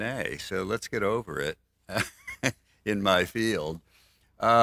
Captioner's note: laughs